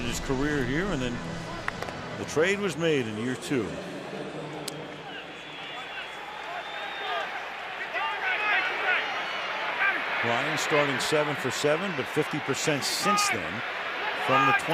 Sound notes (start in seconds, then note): 4.3 pa announcement